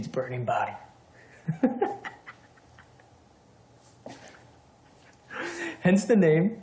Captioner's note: laughs